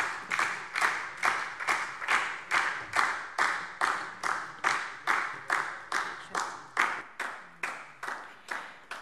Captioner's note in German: Beifall DIE LINKE und SPD